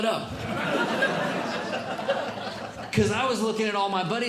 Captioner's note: audience Laughing